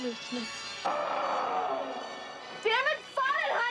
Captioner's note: roar on cd